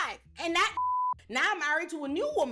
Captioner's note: beep